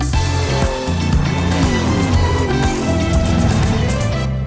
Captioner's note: vrrrmm Vrrmm